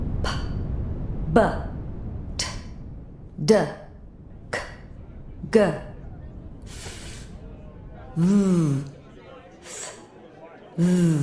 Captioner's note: sounding out consonants. In the background, ambient chatter